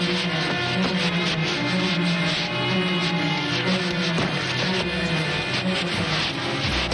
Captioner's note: sounds of struggle